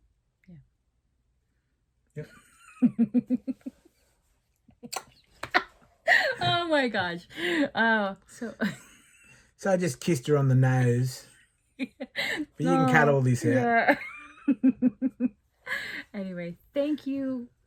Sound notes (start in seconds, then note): 2.2 laughter; 11.8 giggling